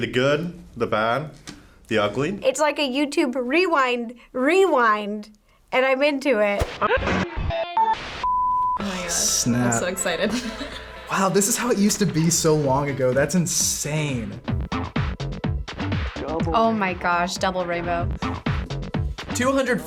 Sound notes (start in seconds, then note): 7.3 television beeps; 15.2 upbeat music